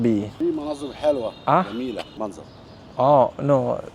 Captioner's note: speaking Arabic